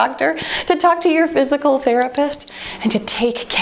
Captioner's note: timer beeps